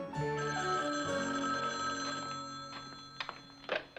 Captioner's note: phone Rings